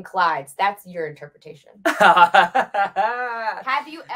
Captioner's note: laughs